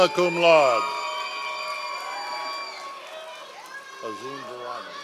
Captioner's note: members of the audience cheering